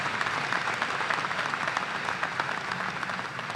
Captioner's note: applause